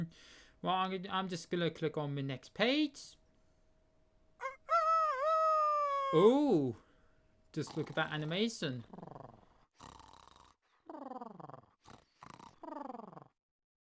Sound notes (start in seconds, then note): 4.4 rooster crowing sound; 8.8 mr tickle snoring